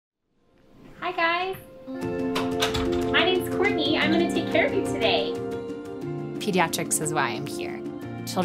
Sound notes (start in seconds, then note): 1.8 gentle music; 2.2 door clicks